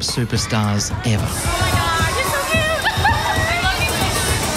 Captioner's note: laughs